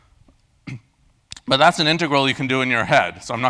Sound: cough

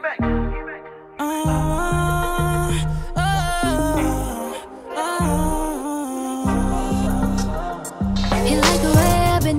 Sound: vocalizing

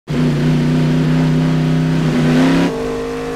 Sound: engine roaring

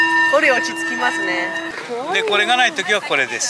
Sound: speaking in foreign language; vendor speaking in foreign language

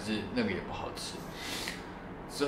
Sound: sniffle

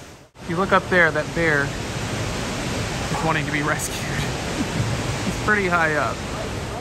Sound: laughs

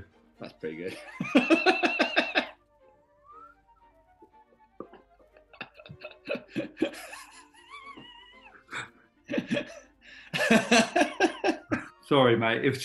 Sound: laughter from watson + horne

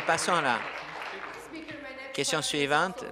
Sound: applause

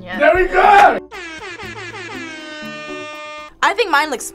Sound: air horn blares

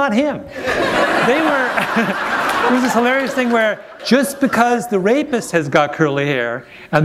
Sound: laughter

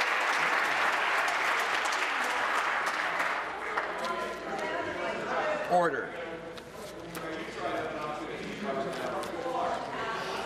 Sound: applause

